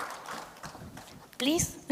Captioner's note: applause